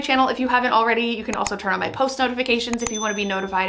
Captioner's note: bell chimes